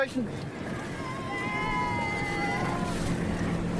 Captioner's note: cheers